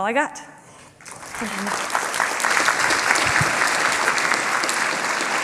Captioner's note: applause